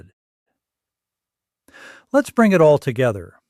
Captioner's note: pause